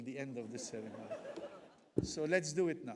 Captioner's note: audience laughs